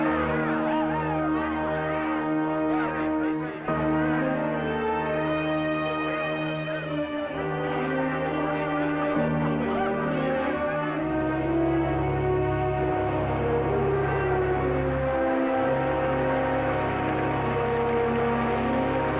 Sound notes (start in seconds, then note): 5.8 shouting; 9.7 cheering